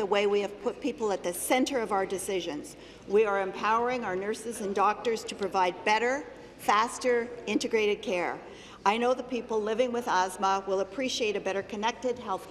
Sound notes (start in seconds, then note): none